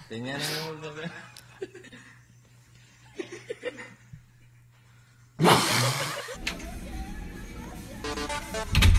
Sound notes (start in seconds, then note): 0.1 man speaks foreign language; 5.3 growls; 8.1 electronic music